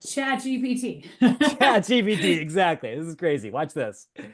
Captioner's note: laughs